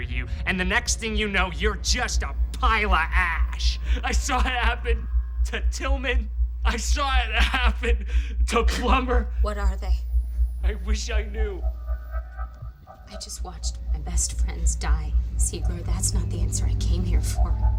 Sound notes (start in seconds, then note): 6.6 sobbing